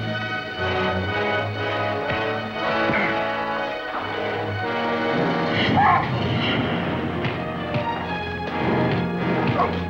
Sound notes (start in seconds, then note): 2.2 fist thuds; 5.9 Kearn yelps; 7.4 fists thud